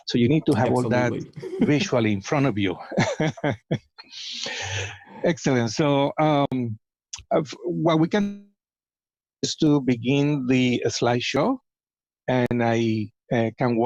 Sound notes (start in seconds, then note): 2.7 laughs